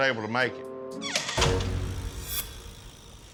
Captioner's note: door shuts